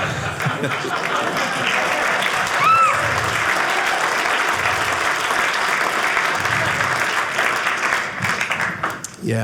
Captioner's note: audience applauding